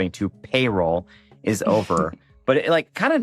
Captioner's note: chuckles